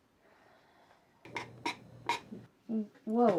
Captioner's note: box creaking